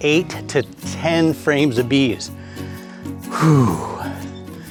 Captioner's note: sigh